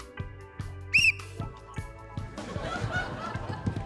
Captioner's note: blows whistle; laughter